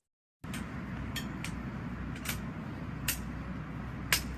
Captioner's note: cane clicking